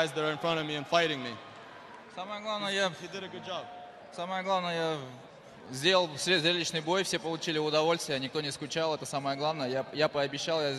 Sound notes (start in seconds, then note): 3.6 continues speaking in foreign language